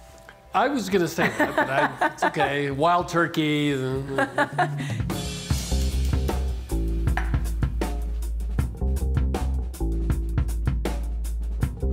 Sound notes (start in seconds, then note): 1.2 laughter; 3.8 laughing